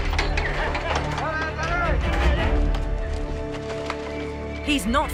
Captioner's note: intense music; shouting